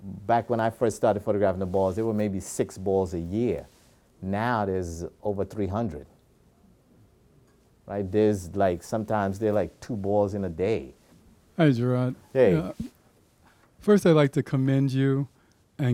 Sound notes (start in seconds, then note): 11.7 deep Voice; 13.9 deep Voice